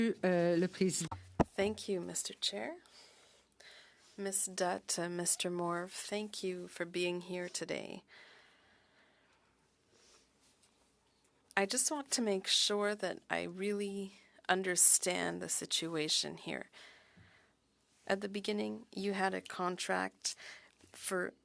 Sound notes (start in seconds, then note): 4.4 speaking French